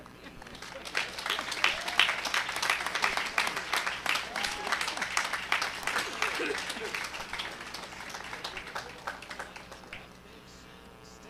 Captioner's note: applause